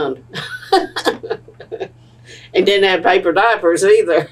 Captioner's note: laughter